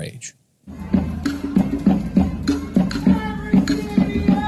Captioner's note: people chanting